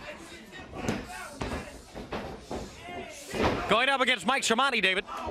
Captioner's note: crowd chatter